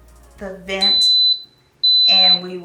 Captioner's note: Instant Pot beeps